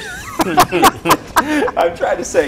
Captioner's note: laughs